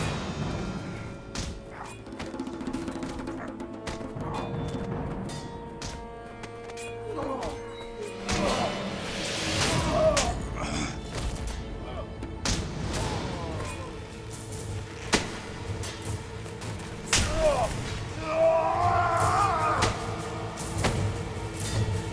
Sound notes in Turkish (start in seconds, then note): 0.2 Müzik - Gerilim; 8.2 Kılıç sesleri; 15.1 Darp sesleri; 21.6 Müzik - Gerilim